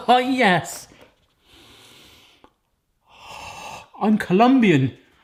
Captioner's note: sniffing